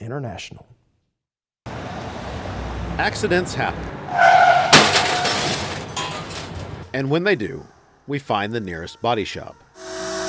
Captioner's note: car crash sounds